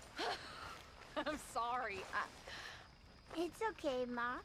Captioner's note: laughs